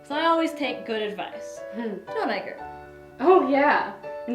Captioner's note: Gertrude chuckles